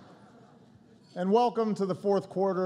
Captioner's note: laughter